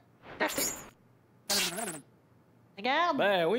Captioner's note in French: Grésillements